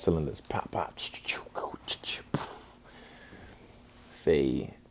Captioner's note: makes fighting sounds